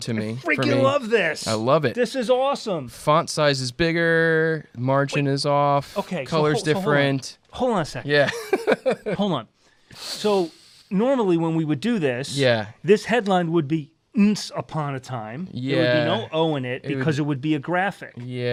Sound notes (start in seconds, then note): 8.2 laughs